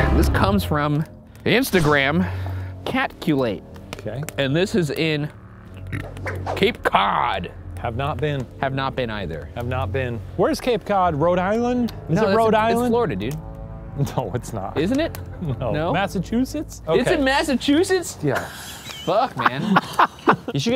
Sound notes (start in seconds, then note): 5.7 burps